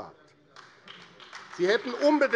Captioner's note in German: Beifall AfD